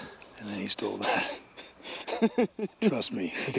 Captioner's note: laughs